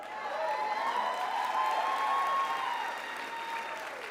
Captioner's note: crowd cheers